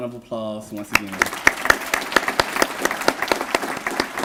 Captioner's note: applause